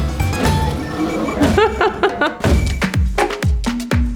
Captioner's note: bright music; Bruna laughs; upbeat energetic music